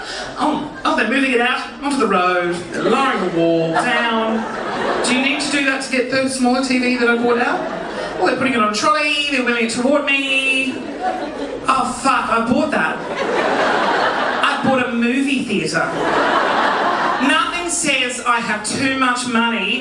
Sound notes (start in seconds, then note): 2.6 audience giggling; 12.8 audience laughing; 12.8 audience giggling; 15.8 audience laughing